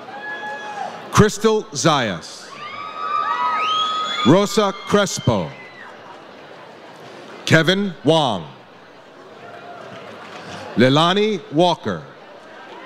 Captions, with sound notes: Crystal Zais. (audience cheers) Rosa Crespo. Kevin Wong. Leilani Walker.